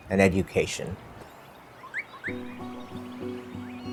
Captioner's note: birds chirping